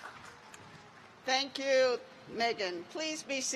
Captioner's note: applause